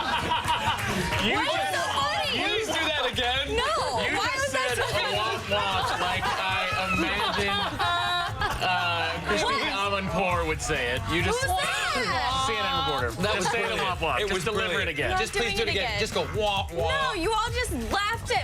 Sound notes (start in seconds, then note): 4.7 laughter